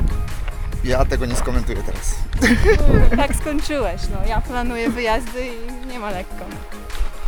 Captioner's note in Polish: śmiech